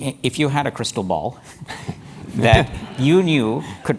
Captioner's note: laugh